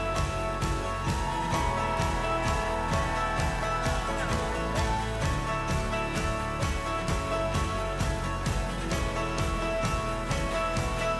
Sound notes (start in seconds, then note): 0.0 group cheering